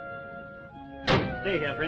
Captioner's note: car door slamming